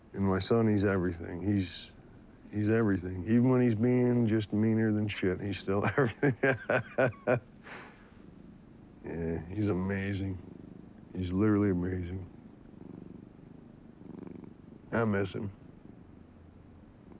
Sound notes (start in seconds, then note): 5.5 laughs; 7.2 cat purrs